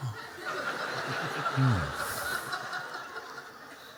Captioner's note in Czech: Smích